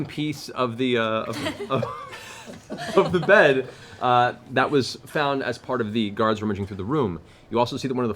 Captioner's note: laughs